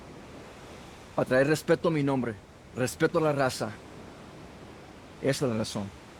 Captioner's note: Miguel speaks in Spanish